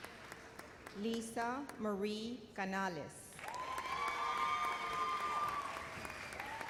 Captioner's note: cheers and applause